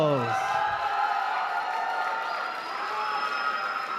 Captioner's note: applause